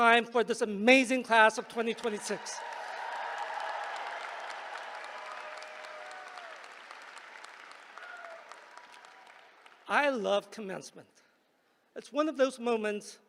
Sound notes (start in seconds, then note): 1.8 applause